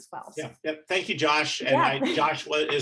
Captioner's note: chuckling